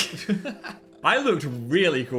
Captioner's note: laugh